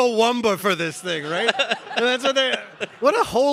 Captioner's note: all laughing